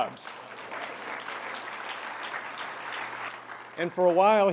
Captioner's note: applause